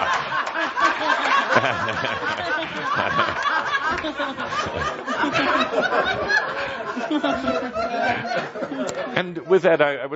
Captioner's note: lots of laughter